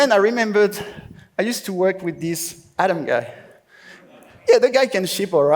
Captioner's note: laughs